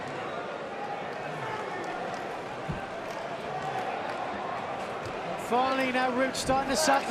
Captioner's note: crowd chatter